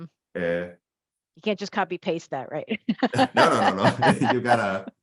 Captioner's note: laughs